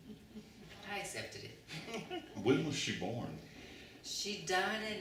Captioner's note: laughter